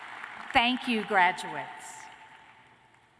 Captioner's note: cheers